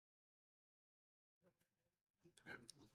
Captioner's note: silence